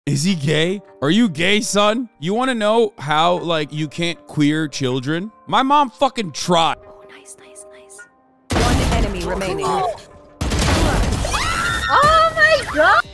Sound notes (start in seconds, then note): 8.5 gunshots; 11.2 cheerfully screaming